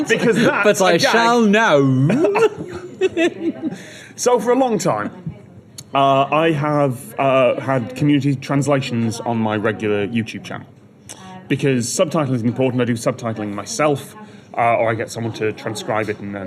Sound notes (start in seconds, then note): 0.0 laughter; 2.0 laughter